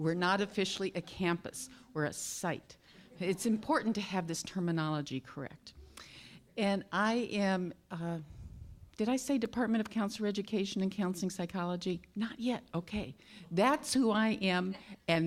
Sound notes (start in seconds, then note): none